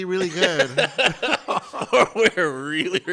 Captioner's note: members laugh